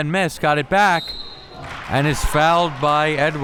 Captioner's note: whistle blows